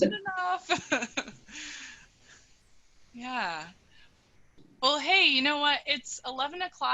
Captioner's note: laughing